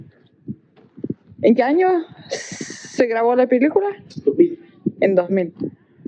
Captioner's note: in Spanish